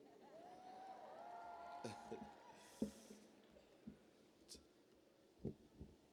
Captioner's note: cheers